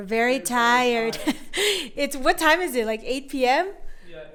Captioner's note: chuckles